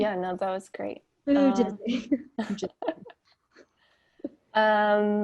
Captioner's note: laughter